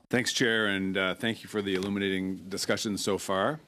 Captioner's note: speaking french